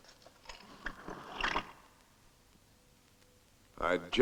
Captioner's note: chair scraping